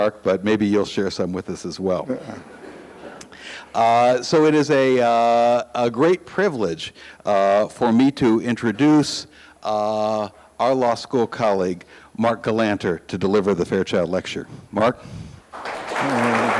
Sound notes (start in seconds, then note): 2.1 audience laughs; 15.5 audience applauds